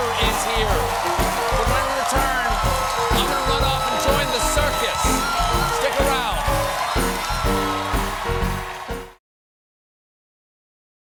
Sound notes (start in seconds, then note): 8.3 applause